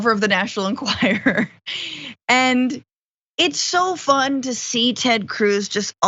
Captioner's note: laugh